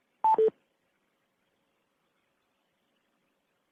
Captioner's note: beep